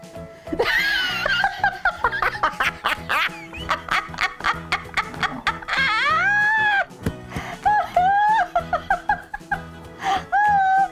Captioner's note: laughing